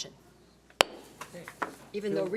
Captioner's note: gavel bangs